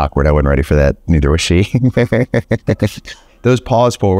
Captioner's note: laughs